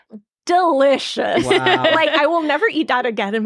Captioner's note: laughing